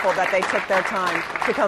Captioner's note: applause